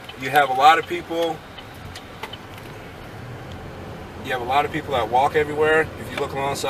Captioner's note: sound of car turning signal